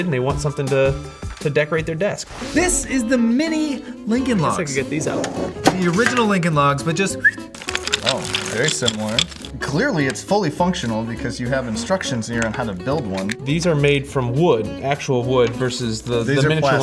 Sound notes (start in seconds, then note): 7.0 whistles